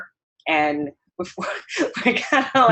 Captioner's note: laughter